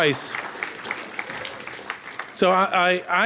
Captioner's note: audience applauding